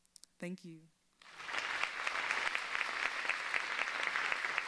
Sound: audience applauds

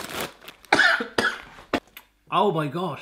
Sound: coughs

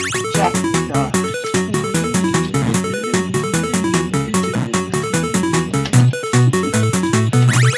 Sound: hums the song

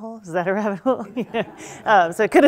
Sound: laughing

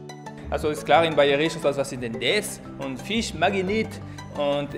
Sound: man speaking German

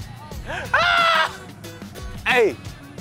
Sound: screaming

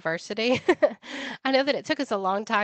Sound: laughing

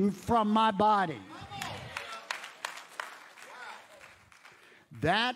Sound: audience applauds

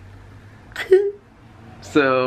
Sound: giggles

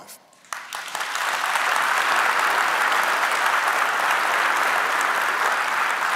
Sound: applause

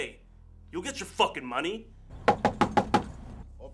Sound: door knocking

